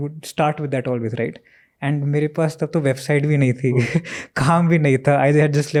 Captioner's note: speaks in Hindi